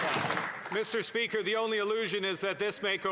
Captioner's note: some Applause